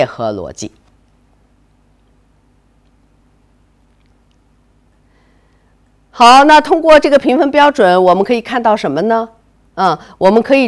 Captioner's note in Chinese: 空白_音频